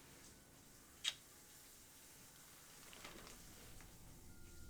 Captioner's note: kiss smacking